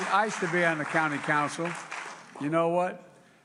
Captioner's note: applause